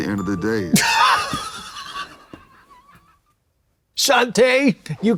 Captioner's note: Katya crinkles